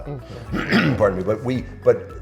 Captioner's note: clearing throat